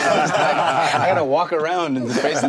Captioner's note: laughing